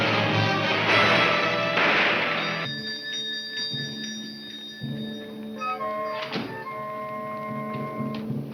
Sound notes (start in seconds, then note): 2.2 bell chiming; 5.5 brooding music